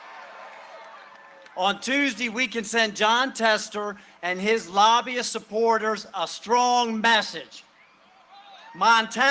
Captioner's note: cheering and applause